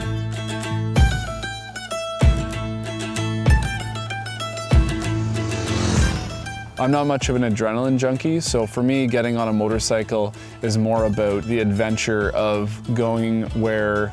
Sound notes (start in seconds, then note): 0.2 upbeat folk music; 4.6 motorcycle revving